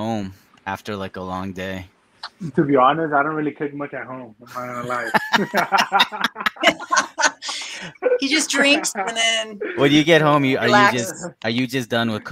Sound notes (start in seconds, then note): 4.8 everyone laughing